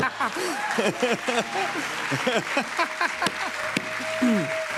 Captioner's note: laughter; cheers and applause